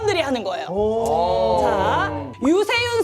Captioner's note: sounds of interest